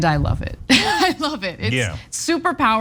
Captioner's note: laugh